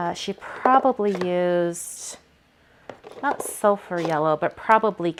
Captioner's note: none